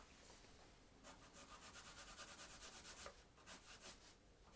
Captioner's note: pencil scratching